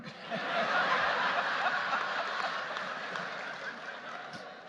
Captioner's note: audience laughing